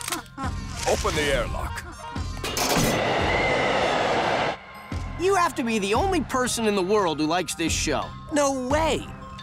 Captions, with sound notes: Open the airlock. [wind blowing] You have to be the only person in the world who likes this show. No way.